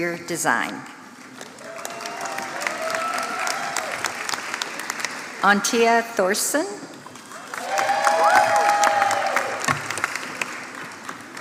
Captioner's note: applause